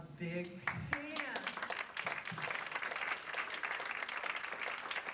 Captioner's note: audience applauds